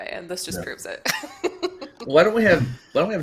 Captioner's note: laughs